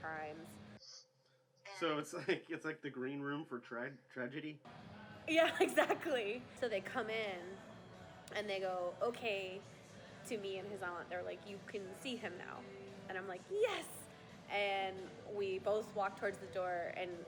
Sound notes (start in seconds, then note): 5.3 laughs